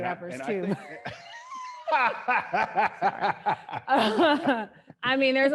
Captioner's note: laughing